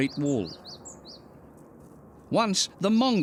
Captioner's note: bird chirping